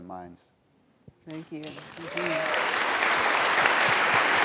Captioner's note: applause